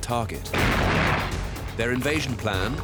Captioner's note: explosion